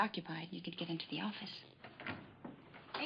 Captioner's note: door opens